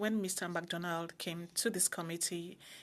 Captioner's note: speaking French